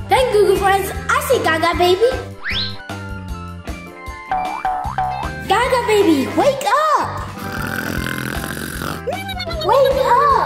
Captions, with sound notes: Thanks, Goo Goo Friends. I see Gaga Baby. (footsteps boinging) Gaga Baby, wake up! (snoring) Wake Up!